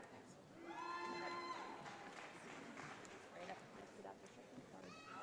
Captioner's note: audience applauding